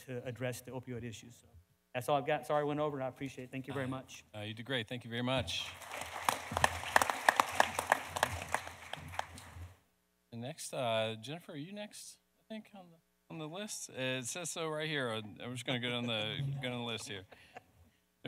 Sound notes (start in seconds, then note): 5.5 panelists applauding; 5.5 audience applauding